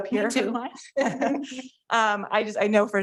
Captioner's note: chuckling